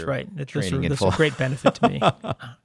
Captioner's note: laughs